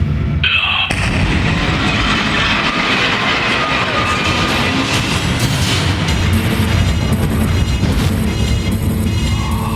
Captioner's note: glass exploding, weird noises